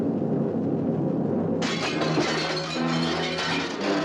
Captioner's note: glass shatters